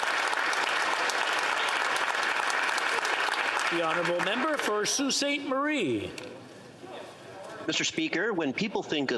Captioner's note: applause